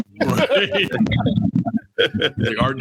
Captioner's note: laughing